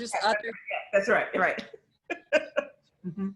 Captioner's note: laughs